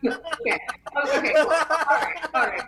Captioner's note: laughs